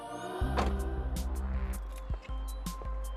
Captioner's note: thump; footsteps